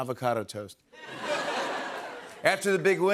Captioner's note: laughter